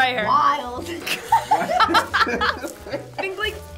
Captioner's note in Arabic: يضحك الجميع